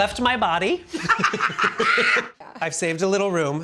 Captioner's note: both laughing